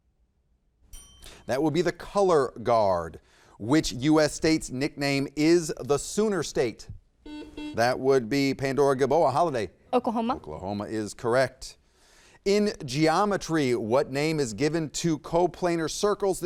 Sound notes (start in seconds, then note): 0.9 bell dings; 7.2 buzzer beeps